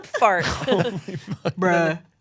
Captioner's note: laughs